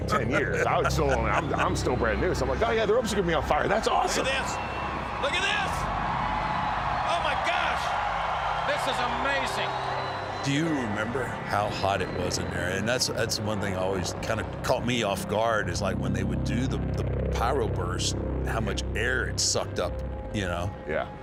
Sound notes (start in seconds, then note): 7.4 crowd cheers wildly